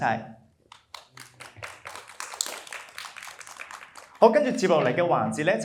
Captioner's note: applause